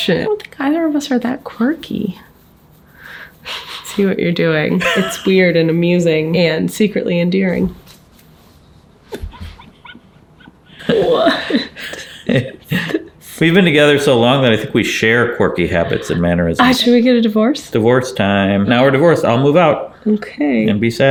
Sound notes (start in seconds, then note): 4.8 chuckling; 9.1 both giggling